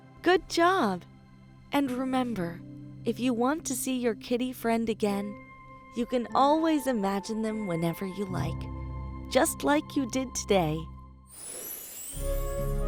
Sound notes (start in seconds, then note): none